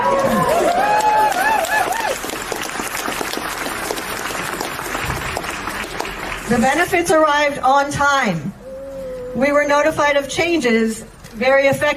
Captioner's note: applause